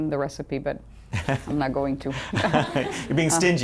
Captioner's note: laughter